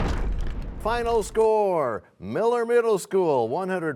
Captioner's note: crashing sound